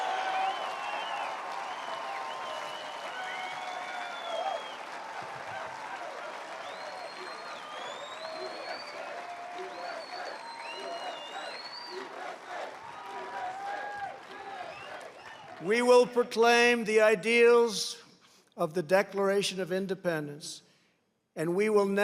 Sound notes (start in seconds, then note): 2.3 applause